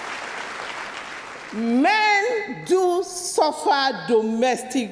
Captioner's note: applause